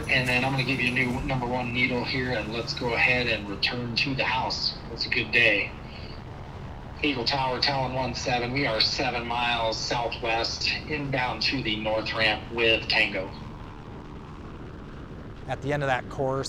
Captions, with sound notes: and then I'm gonna give you a new number one needle here and let's go ahead and return to the house. That's a good day. Eagle Tower, Talent one seven, we are seven miles southwest inbound to the north ramp with tango. (chopper engine whirs) - At the end of that course,